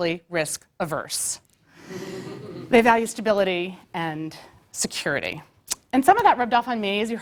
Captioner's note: laugh